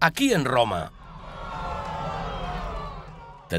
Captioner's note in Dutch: menigte schreeuwt